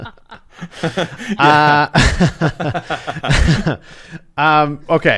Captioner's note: laughter